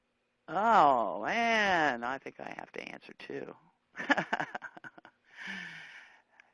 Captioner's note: laughing